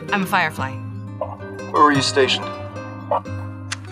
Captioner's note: voice on the Radio